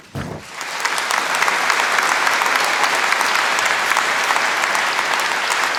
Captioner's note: applause